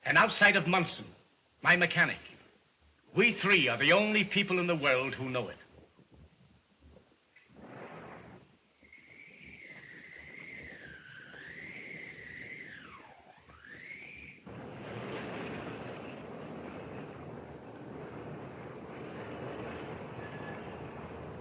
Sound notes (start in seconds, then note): 7.7 wind blowing; 15.7 traffic noising